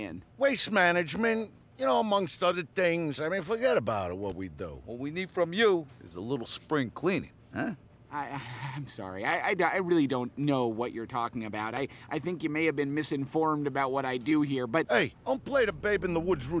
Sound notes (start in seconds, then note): 8.0 stammers